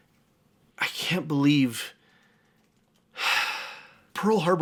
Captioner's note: sighs